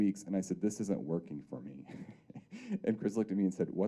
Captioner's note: chuckling